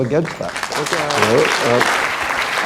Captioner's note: applause